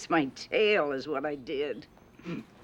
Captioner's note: chuckles